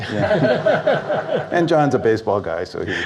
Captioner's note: audience Laughs